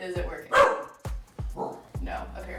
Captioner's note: Baloo barks